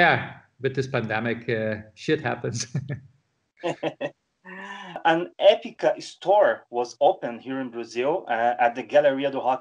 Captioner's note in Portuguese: Risos